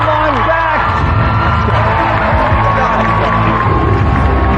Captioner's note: cheering